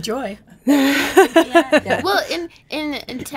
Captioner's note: laughing